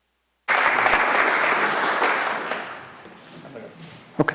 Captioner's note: audience applause